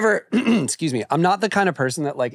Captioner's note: clears throat